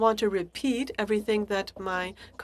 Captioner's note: speaking French